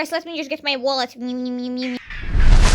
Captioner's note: intense whoosh noise; Gremlin noises intensify